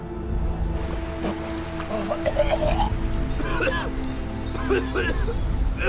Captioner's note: Cain coughing and choking